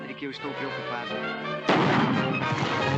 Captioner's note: gunshot; tense music